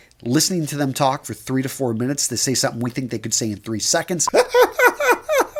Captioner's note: laughs